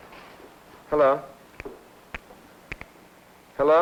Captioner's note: static crackling on telephone